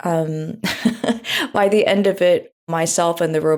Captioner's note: laughs